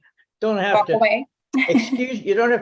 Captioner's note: giggles